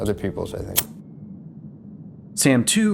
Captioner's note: click